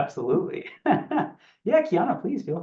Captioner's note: laughs